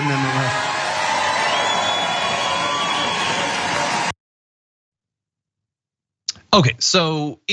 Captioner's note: applause